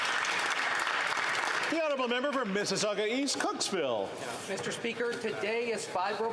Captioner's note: some Applause